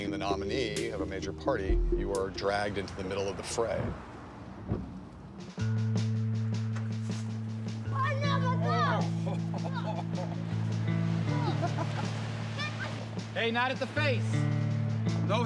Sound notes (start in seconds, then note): 7.8 children yelling; 9.0 laughs